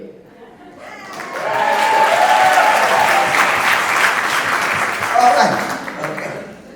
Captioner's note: crowd clapping hands